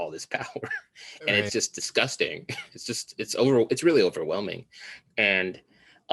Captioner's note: chuckles